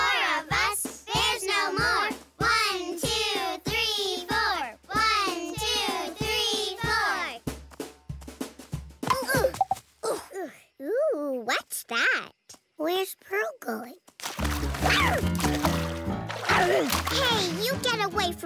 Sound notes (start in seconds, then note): 14.1 splashing; 14.7 grunt